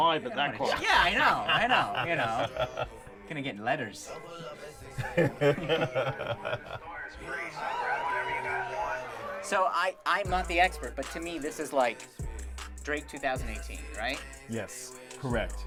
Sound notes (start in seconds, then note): 0.6 laughing; 6.9 man laughing; 8.5 crowd cheering